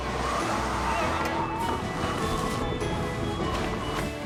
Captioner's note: wind blowing